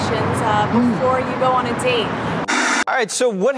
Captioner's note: static